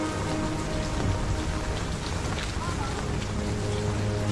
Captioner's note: rain pattering